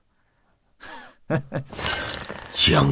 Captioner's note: chuckles